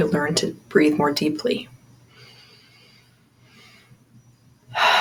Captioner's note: inhale/Exhale